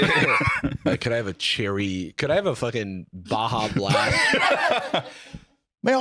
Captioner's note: laughs; laugh